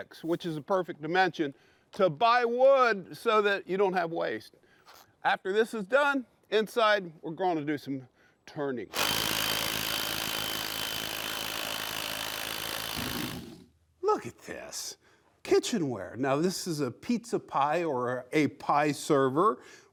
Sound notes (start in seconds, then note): 8.9 impact driver buzzes; 12.9 wood scrapes